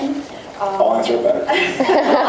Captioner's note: laughs